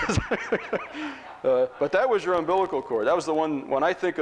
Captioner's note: chuckles